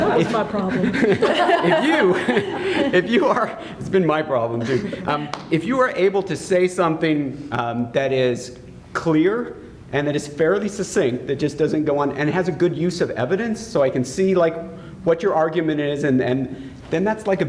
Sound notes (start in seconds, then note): 0.0 laughter